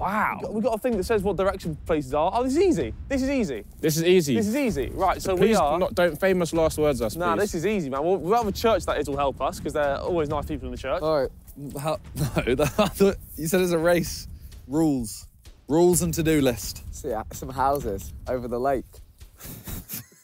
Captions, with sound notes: Wow. - We got, we got a thing that says what direction places are. Oh, it's easy, this is easy. - This is easy. - This is easy. Right, So we are - - Please do not, don't famous last words us please. - Nah, this is easy man. We, we'll have a church that it'll help us 'cause there're always nice people in the church. - Alright. [laughing] - No, you said it's a race. Rules. Rules, and to-do list. - I see some houses over the lake.